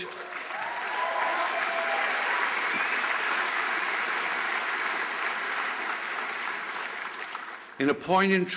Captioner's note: applause